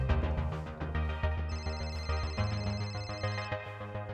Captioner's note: phone ringing